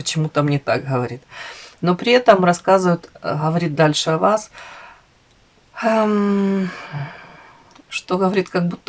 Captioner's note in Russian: вздыхает; зевает